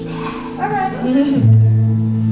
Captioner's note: whispered